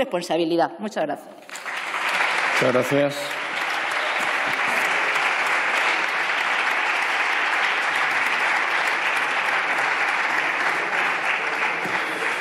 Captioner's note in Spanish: Aplausos